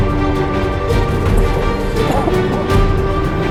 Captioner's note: coughing